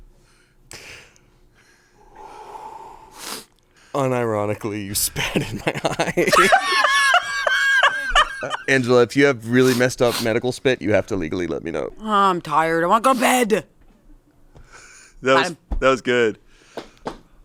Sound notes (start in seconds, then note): 1.6 exhales; 5.0 laughs